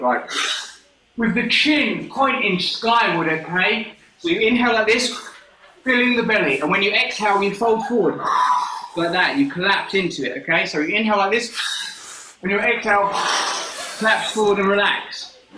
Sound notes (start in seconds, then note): 0.1 inhales sharply; 8.2 exhales sharply; 11.8 inhales sharply; 11.9 exhales sharply